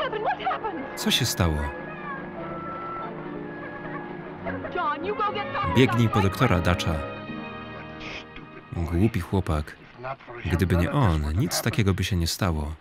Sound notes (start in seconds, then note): 4.4 sobs